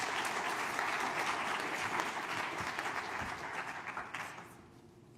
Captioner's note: applause